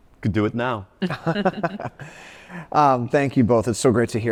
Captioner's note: laughs